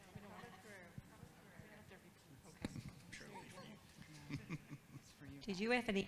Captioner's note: group chattering